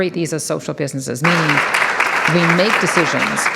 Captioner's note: audience applauds